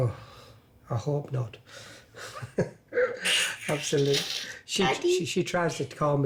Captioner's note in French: ricanant